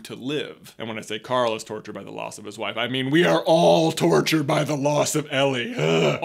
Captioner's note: groans